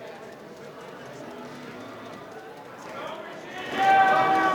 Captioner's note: crowd cheering